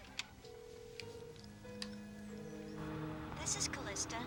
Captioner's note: telephone ringing